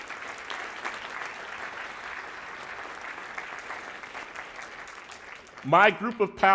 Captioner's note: applause